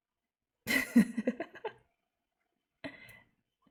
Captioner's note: laughs